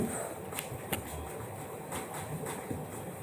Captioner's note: none